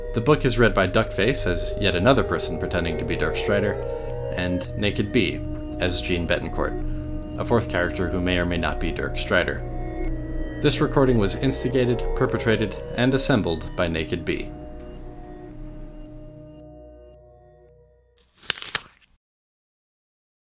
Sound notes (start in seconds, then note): 18.2 crunch